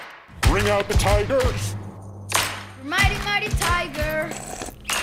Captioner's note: Crunch